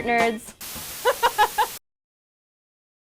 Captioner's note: laughing